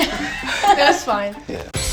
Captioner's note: laughing